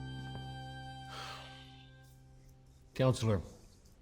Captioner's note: sighs